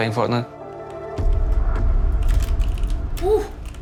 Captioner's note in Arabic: نقر على لوحة المفاتيح